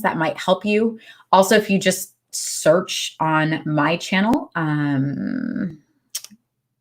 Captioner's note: smacks lips